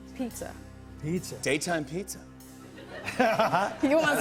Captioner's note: laughter